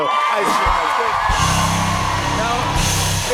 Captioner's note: cheers and applause